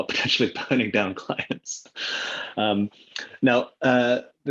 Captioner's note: laughs